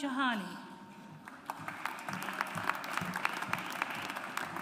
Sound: audience applauds

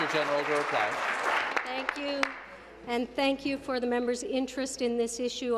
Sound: applause

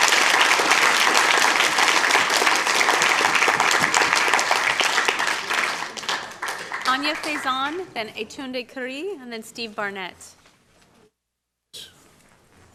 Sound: applause; cheers

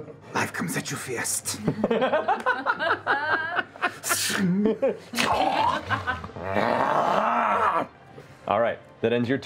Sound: growling

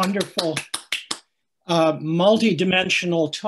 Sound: clapping

